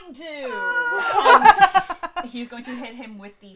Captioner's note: laughter